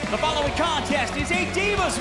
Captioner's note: bell ringing